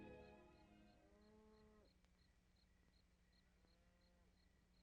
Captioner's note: insects chirping